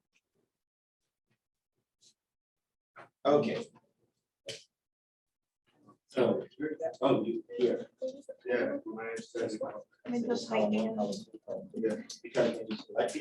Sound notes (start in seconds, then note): none